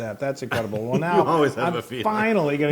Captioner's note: laugh